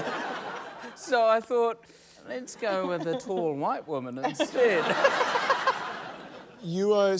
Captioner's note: giggles